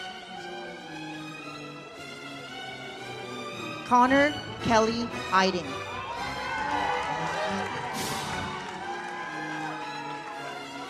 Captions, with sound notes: Connor Kelly-Eiding. (audience cheers) (uplifting music)